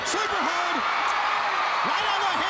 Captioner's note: crowd cheering